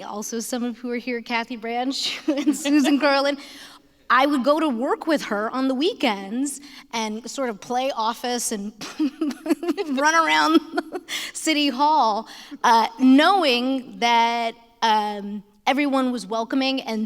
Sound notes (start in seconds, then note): 9.0 laughs